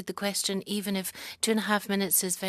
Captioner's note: speaking French